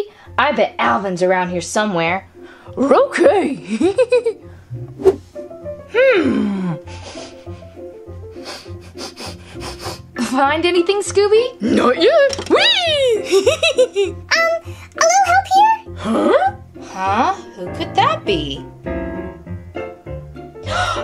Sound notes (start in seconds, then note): 3.7 snickers; 8.2 Scooby sniffles; 13.2 chuckles; 19.0 light, bouncy music; 20.6 gasps